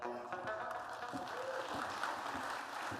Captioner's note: applause